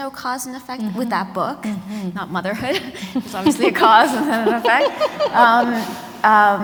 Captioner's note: laughter